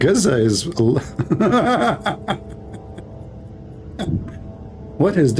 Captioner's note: Ketawa